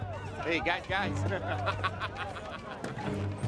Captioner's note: laughs